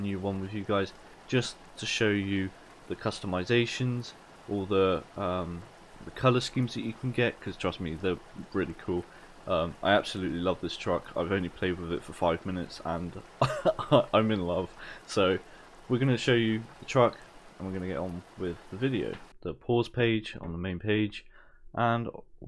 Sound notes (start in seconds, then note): 13.2 laugh